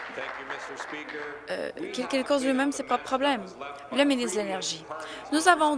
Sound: applause

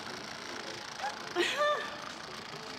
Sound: laughs nervously

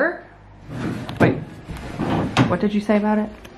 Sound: drawers clattering

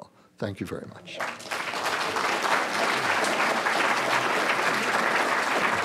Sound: clapping

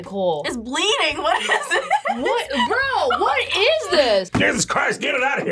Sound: laughs

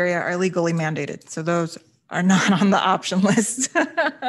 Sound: laughs

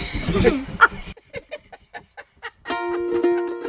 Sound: general laughter

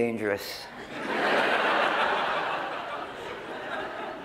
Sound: laughter

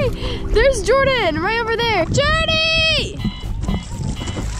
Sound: wind blowing hard

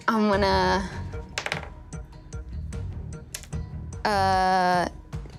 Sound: dice clatters

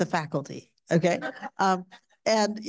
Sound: audience laughing

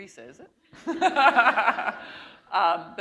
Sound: laughter

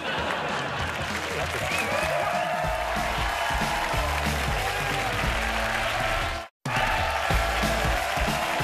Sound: audience laughter; cheers and applause

